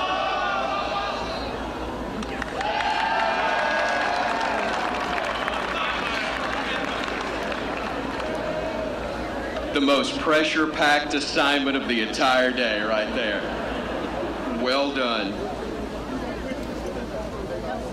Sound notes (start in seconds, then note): 7.2 applause